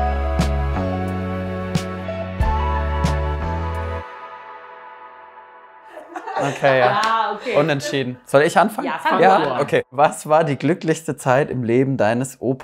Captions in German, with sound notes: (Lockere Musik) (Lachen) Okay, ja. Unentschieden. Soll ich anfangen? - Ja, fang du an. "Was war die glücklichste Zeit im Leben deines Opas?"